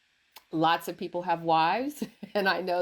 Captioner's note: laughs